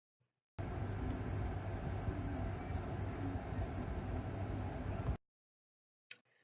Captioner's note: sound of water boiling in a saucepan